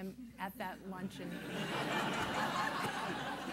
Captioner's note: laughter